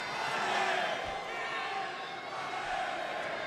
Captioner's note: crowd cheering